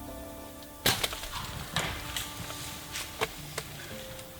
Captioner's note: bow thuds